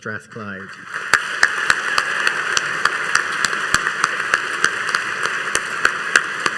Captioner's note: all applauding and cheering